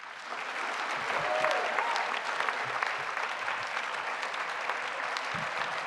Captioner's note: applause